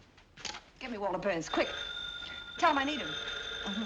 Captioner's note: phone ringing